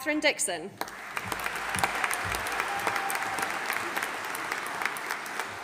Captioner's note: audience applauding